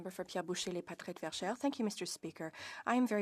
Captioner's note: speaking French